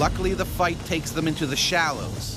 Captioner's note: voiceover